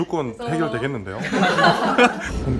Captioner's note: staff laughing